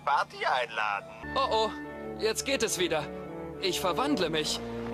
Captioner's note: speaking in foreign language